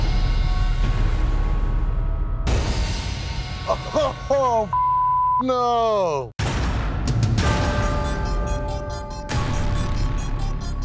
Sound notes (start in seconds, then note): 5.2 laughs; 6.4 dramatic music